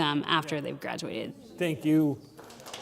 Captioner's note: applause